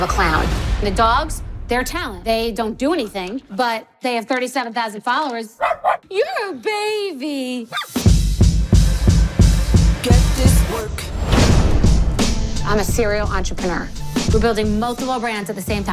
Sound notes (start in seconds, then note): 5.6 barks